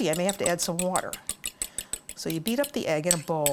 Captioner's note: egg beating